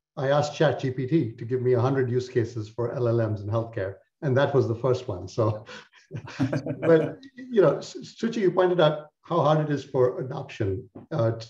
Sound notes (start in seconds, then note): 6.1 laughter